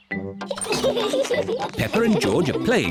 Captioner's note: all giggle